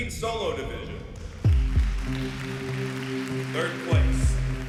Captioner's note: applause